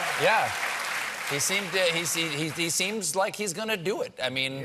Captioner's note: cheers and applause